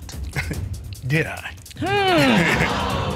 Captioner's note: chuckles